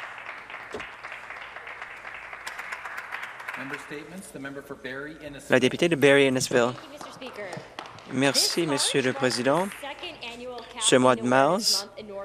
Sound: some Applause

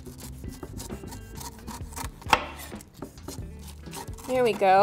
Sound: knife cutting through pineapple

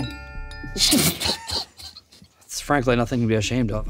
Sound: laughs

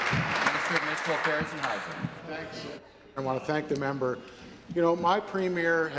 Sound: applause

